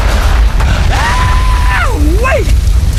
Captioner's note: screaming